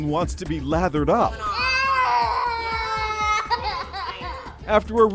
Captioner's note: child cries